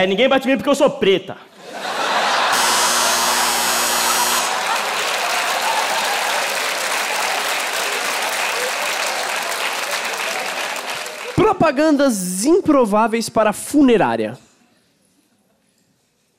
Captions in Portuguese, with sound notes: Ninguém bate em mim porque eu sou preta! [campainha] 'Propagandas improváveis para funerárias'